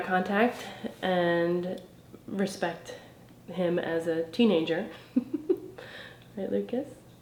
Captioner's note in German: kichert